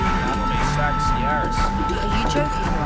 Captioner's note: voiceover